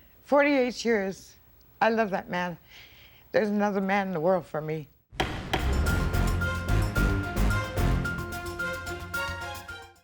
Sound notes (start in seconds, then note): 5.1 gavel bangs; 5.2 dramatic music